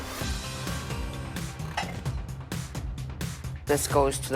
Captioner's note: intense music; objects clattering